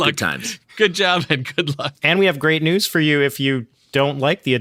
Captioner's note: laughing